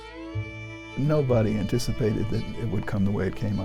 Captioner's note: voiceover